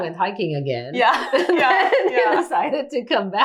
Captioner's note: both laughing